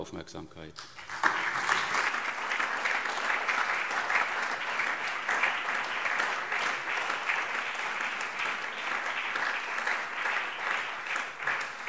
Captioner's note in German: Anhaltender Beifall